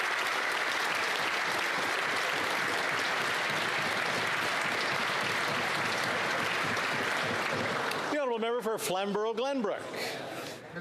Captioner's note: applause